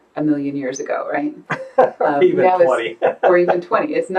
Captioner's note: laughing